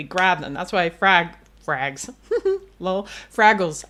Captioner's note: laughs